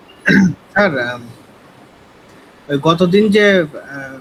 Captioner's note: clearing throat